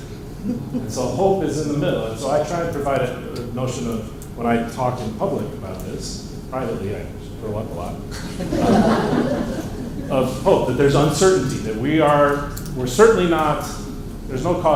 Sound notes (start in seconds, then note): 8.1 laughter